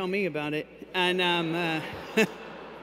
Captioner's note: laughter